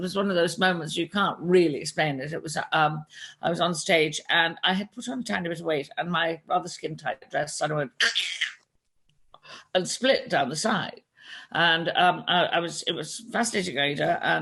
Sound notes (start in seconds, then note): 8.1 mimics sound of material tearing